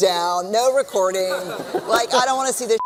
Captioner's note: laughter